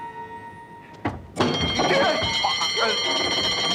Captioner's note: burglar alarm ringing